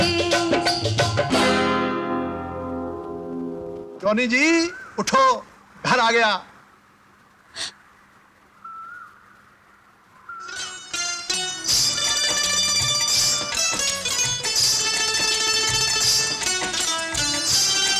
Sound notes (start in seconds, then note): 7.6 gasps; 10.5 banjo playing